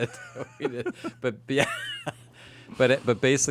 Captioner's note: laughs